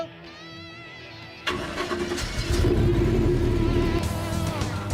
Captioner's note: engine starting